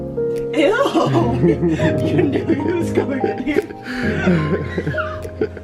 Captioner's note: laughs